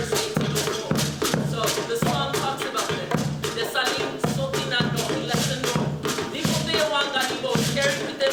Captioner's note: non-english